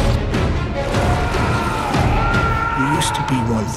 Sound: Eddie and Venom screaming

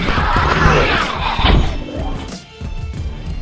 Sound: animal-like screams and grunts

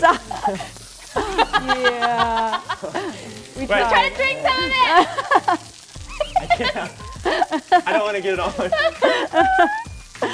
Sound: laughter

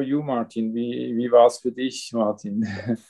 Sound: speaks foreign language

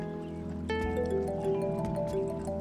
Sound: phone rings

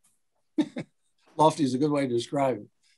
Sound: giggling

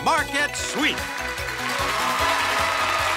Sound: cheers and applause

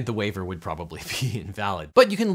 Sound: laughs

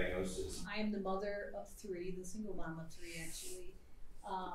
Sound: none

